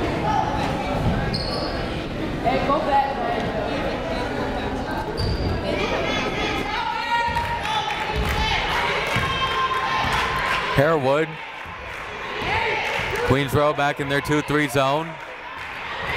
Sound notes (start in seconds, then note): 8.0 crowd cheering